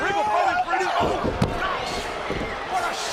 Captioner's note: body thudding